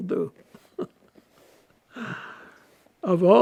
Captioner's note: laughing